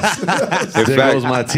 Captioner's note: all laughing